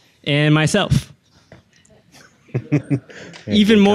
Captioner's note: audience laughing